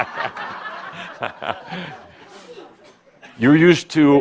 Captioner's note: laughter and Adamus chuckles